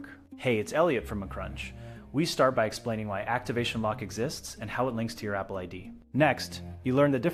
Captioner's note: speak with a friendly and professional tone